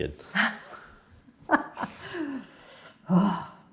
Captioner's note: chuckles